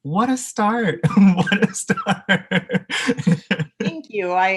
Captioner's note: laughing